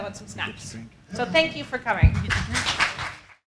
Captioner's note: applause